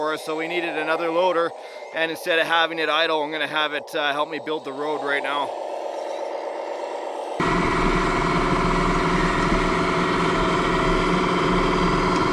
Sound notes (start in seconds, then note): 7.1 Komatsu engine roaring; 7.4 bulldozer engine revving